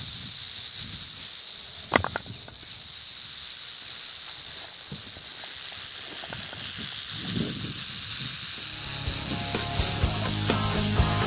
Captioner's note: snake rattleing